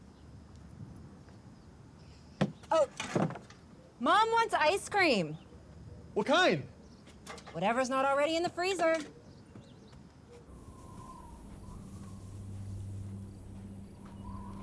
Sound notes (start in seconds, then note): 10.3 wind howling